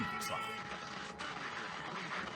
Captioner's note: static noise